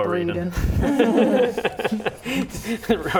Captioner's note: laughing